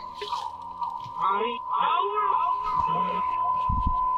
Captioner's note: radio feedback